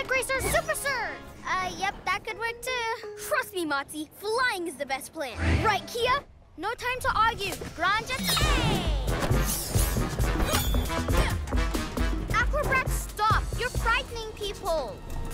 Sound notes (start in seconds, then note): 8.4 upbeat music; 11.2 grunts